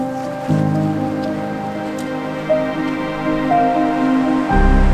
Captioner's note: trail crunching